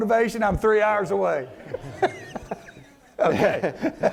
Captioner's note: laughs